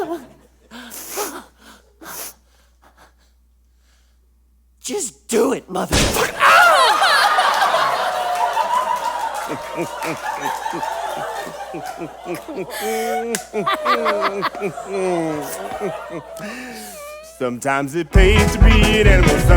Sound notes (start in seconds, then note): 5.9 bang; 7.3 audience laughs, Craphole sobs